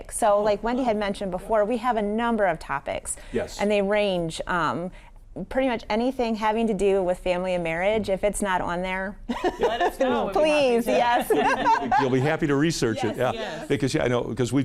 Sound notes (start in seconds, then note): 9.4 laughing